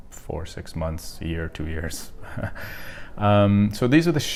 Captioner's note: chuckling